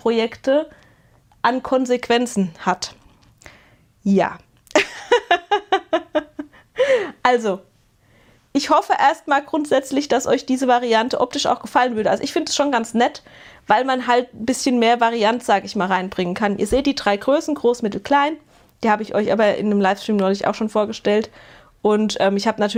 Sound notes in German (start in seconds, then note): 4.7 gelächter; 6.5 japst